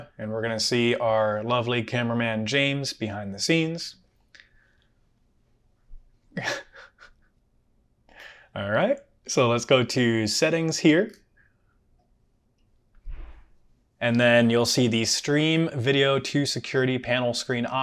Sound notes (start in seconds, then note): 6.3 laughs